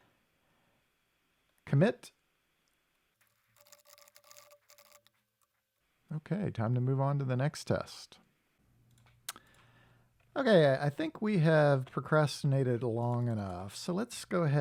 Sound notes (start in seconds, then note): 3.6 typing